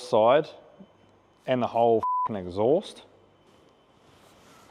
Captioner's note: beep